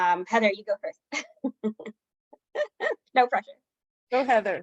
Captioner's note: laughing